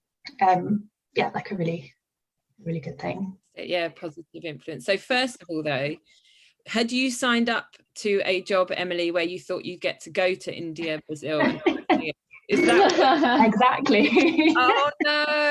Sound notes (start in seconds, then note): 11.4 laughs